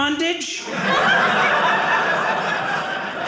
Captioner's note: audience laughing